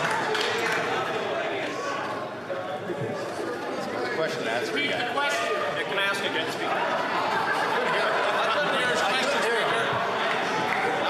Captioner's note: yelling